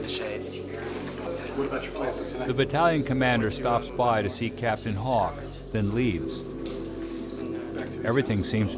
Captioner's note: voiceover